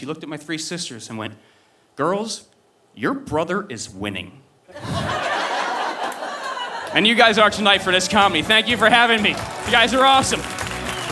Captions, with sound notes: And then she looked at my three sisters and went, "Girls, your brother is winning." (audience laughing) And you guys are tonight for this comedy, thank you for having me. You guys are awesome.